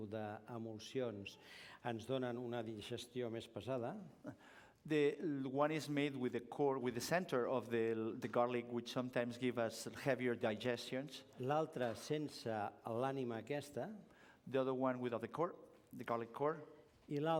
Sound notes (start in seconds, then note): 12.4 non-english speech